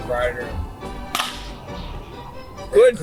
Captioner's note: baseball bat crack